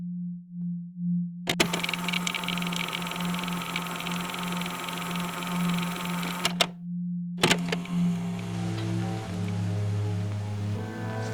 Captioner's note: tape recorder static and music begins